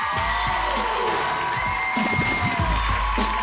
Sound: cheering

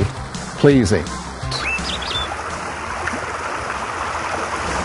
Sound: birds chirping, water running

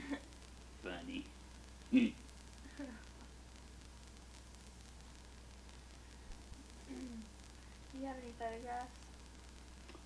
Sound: chuckles

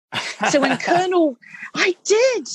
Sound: laughing

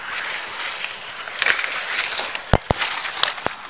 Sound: leaves rustling

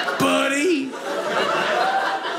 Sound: audience laughing

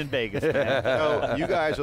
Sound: laughter

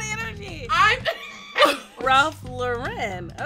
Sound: woman chortles

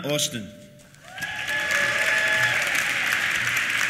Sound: applause; cheers

